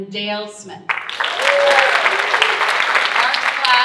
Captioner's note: audience cheering and applauding